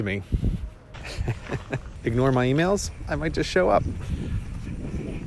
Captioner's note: chuckling